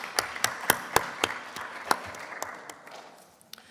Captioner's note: applause